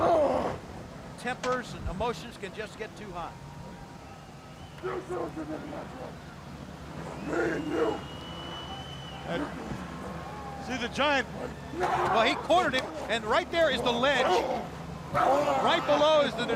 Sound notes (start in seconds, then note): 6.3 crowd chatter